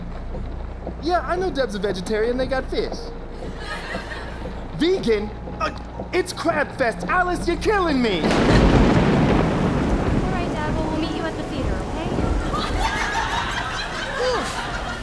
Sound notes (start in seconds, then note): 8.0 thunder rumbling